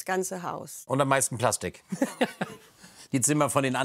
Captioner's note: he laughs